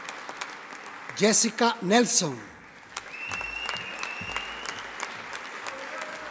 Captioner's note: audience applauding